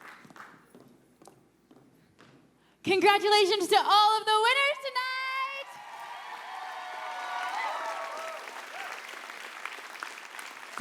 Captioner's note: applause